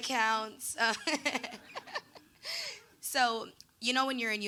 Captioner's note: laughing